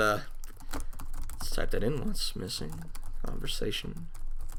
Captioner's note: typing